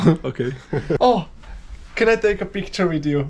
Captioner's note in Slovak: smiech